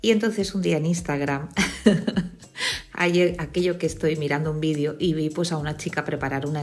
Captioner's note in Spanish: risas